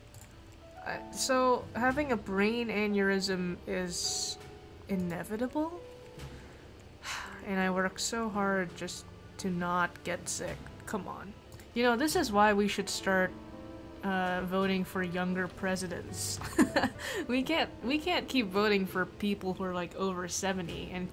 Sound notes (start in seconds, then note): 6.9 sighs; 16.3 laughs